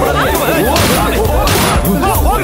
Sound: gunshot

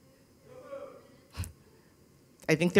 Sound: chuckles

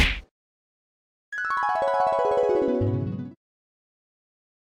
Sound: dreamy sound

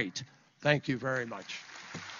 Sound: applause

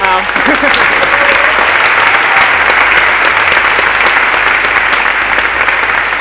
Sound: audience clapping and cheering

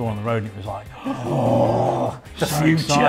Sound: both gasp

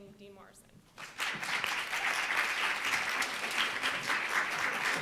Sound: audience applauds

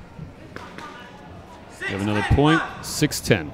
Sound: chattering

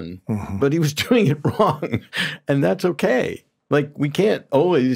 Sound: laughs

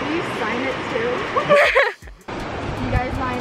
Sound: laughing

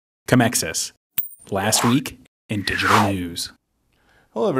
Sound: swooshes

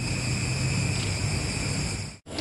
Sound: brief gecko krr noise; odd gecko noises

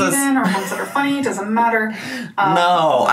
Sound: laughing

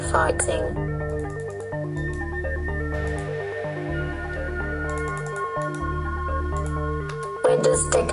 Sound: mouse clicking

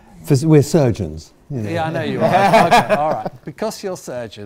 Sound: laughs

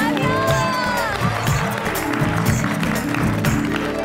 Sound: applauding

